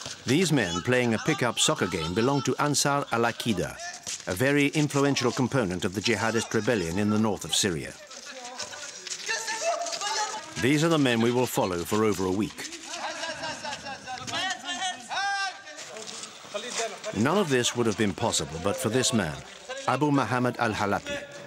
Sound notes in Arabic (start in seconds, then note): 13.1 الصوت المنطوق باللغة العربية